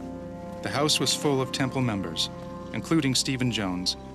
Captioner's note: voiceover